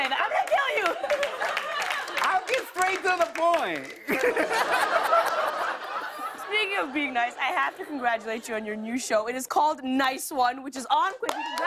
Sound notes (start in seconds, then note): 0.3 laughter and applause; 4.0 laughter